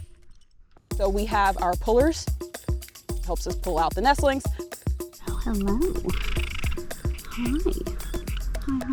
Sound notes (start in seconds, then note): 5.3 bird trilling